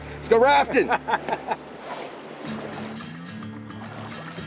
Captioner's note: laughing